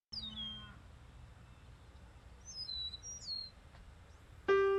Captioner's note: bird chirping